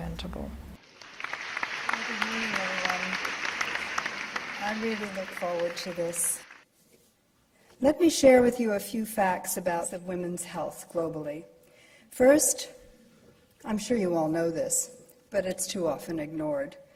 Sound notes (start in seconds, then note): 0.9 clapping